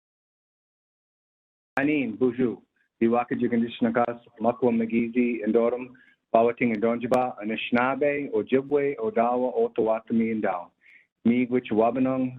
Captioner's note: speaking in native language